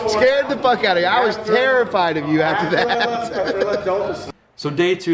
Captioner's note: laughing